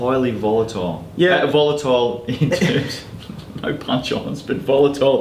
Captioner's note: laughs